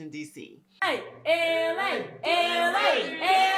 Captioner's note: cheering